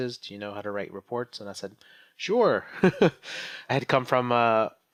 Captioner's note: laughs